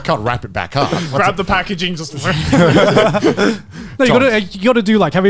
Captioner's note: laughs